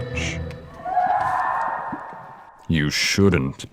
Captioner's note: Mila screams